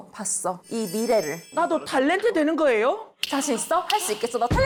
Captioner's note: bright future sound effect